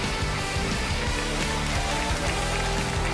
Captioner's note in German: Jubel